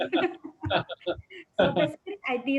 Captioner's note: both laugh